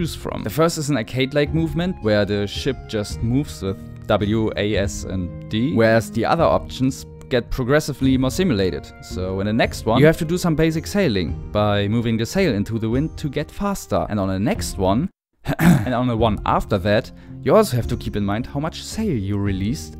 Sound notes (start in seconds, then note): 15.4 clears throat